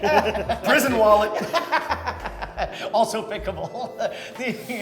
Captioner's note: laughs